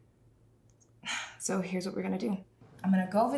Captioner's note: sighs